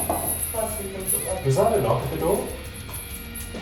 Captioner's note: knock on door